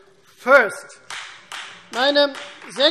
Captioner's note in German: Beifall Freie Demokraten